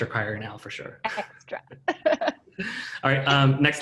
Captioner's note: laughing